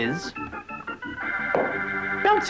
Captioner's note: boing